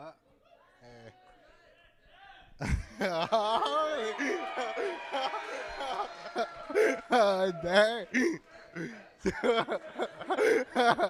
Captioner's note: applause